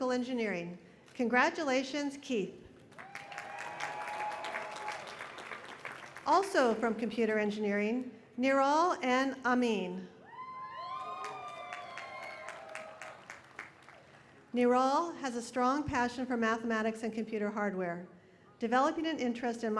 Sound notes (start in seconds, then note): 2.8 applause